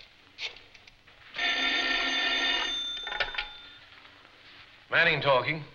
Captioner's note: telephone ringing